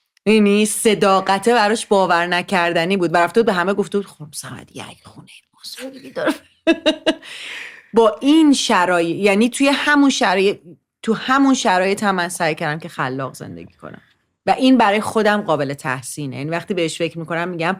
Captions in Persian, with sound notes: می‌بینی؟ صداقته براش باورنکردنی بود و رفته بود به همه گفته بود خانم صمدی یک خونۀ بزرگی داره (خنده) با این شرای... یعنی توی همون شرایط... توی همون شرایط هم من سعی کردم که خلاق زندگی کنم و این برای خودم قابل تحسینه. یعنی وقتی بهش فکر می‌کنم می‌گم